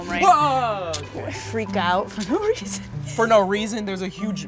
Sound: laughs

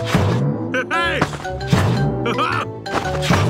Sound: laughs

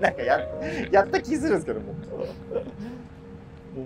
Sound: laughing

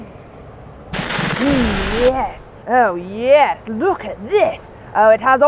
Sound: tv static hisses

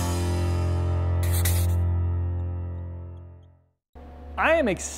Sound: marker writing

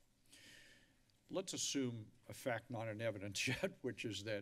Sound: giggles

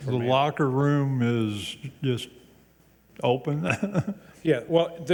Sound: chuckles

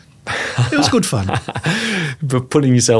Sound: laughing

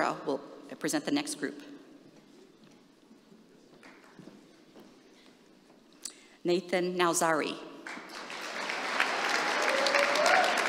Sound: applause

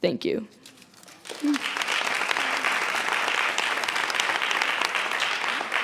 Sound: audience applauds

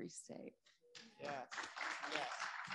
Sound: audience applauding

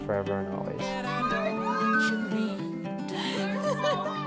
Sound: girls screaming in excitement

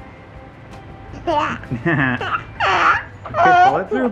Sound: both laughing

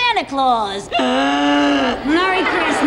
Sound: Charlie gasps for air; audience laughs

